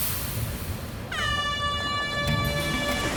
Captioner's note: air horn blows